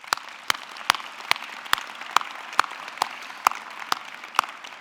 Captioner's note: audience clapping